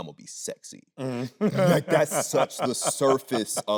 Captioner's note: Anthony laughing